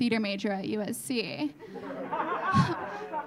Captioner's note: audience laughing